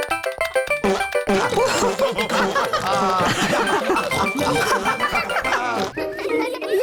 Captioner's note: all laughing